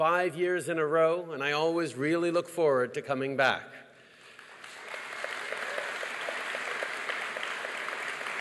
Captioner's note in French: Applaudissements